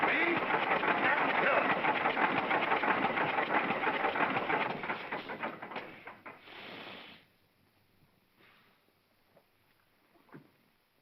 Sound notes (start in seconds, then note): 2.6 engine whirring & clattering; 4.6 engine stops